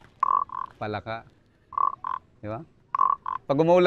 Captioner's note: mimics frog croaking